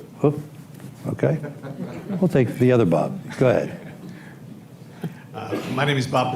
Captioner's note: laughter